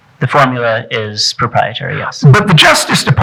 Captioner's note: none